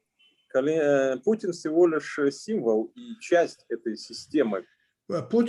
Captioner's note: speaking Russian language